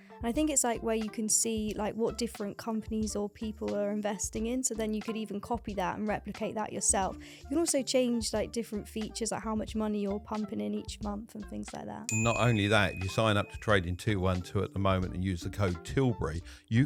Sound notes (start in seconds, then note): 12.1 bell dinging